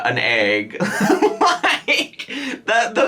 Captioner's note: laughs